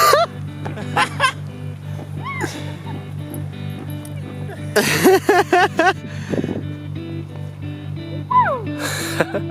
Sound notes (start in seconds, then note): 0.2 laughing; 2.2 people whooping; 5.0 laughing